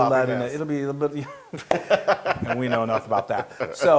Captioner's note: laugh